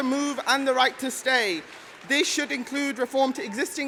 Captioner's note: applause